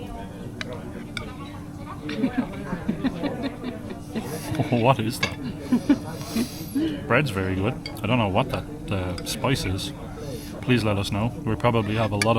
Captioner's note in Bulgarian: Смях